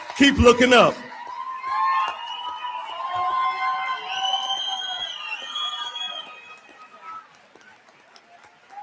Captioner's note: audience clapping and cheering